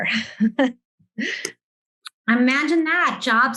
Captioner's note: laughing